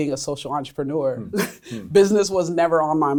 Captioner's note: laughs